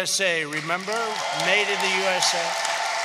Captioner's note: applause